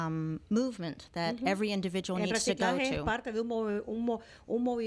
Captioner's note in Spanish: Hablando ingl\s